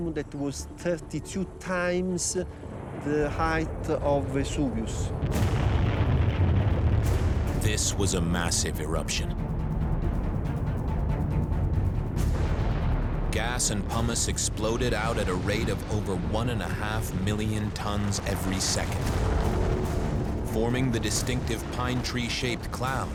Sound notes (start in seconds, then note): 5.3 explosion echoes